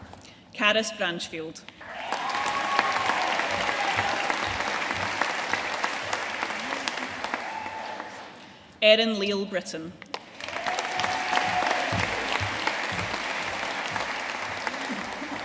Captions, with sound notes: Caris Branchfield. (AUDIENCE CHEERING AND APPLAUDING) Erin Lile Britton. (AUDIENCE CHEERING AND APPLAUDING)